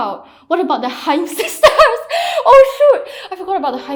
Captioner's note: laughs